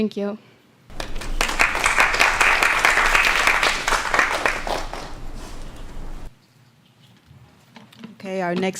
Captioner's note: applause